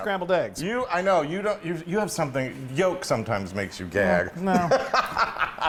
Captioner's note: laugh